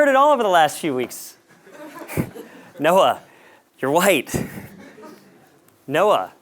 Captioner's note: laugh